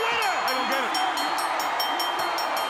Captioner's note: bell ringing